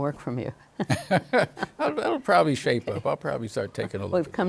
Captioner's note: both laughing